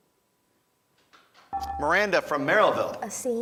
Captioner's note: beeping